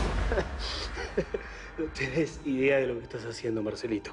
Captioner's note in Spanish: Risas